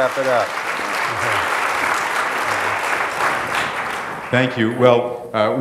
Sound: applause

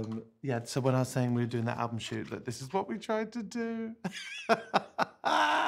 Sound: laughs

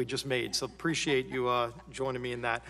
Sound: laughter

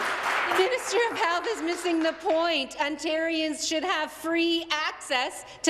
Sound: applause

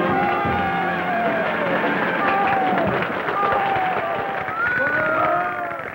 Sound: cheers and applause

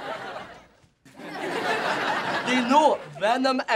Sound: crowd laughing

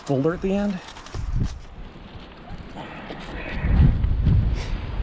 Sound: wind whooshing

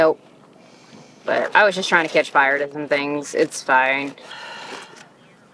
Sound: sigh

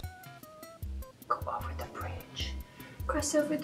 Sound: whispering

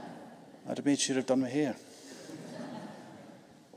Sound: audience laughing

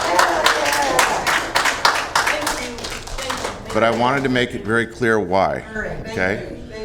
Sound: cheers and applause

